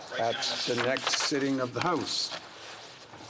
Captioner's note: speaking FRENCH